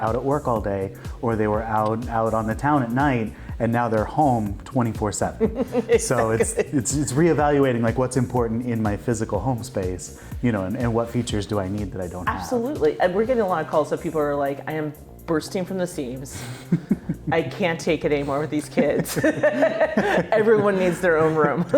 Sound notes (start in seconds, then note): 5.5 laughing; 16.4 laughing; 18.7 both laughing